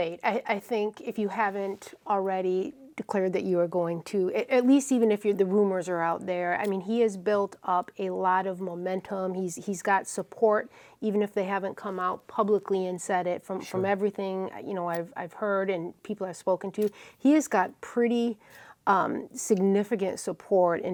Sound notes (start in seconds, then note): none